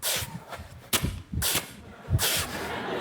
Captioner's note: velcro unfastening; audience laughing